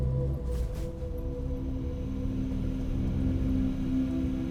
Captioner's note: engine rumbling